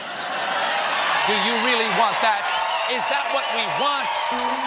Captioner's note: laughter